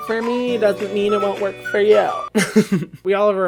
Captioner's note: laughs